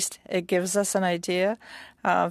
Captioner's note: speaking French